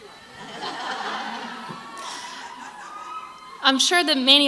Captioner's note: crowd laughs